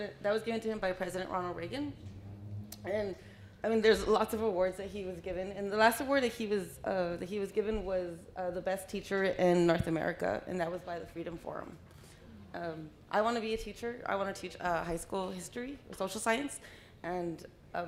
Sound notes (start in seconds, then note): none